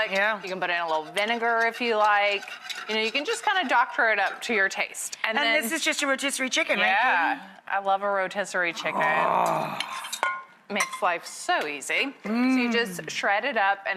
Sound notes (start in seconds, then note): 8.8 Rachael moans